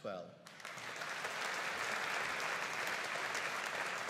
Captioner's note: audience applauding